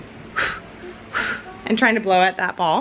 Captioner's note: blowing